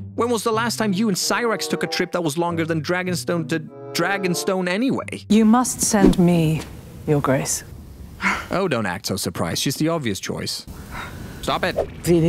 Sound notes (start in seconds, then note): 8.2 over-dramatic sigh; 10.9 over-dramatic sigh